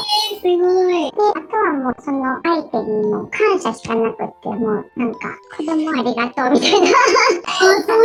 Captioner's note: laughs